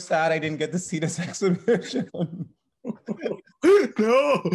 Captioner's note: laughs